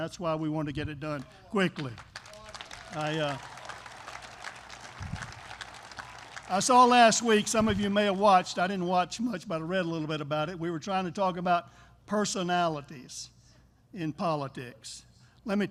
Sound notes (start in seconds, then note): 1.7 applause